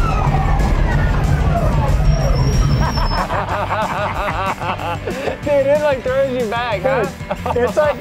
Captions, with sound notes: (laughter) Dude, it like throws you back!